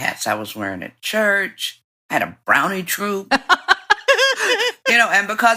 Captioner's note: laughter